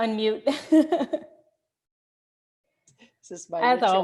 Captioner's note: laughing